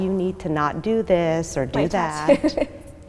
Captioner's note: laughing